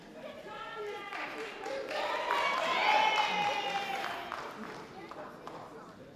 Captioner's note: light audience applause